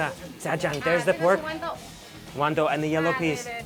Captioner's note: speaks in a foreign language